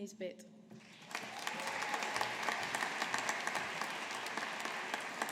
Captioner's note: audience applauding